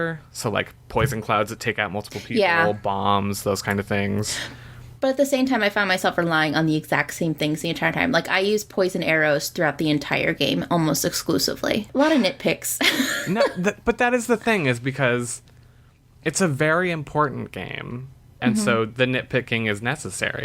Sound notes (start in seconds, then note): 12.9 laughs